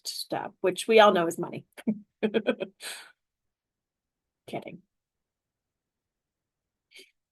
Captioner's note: laughter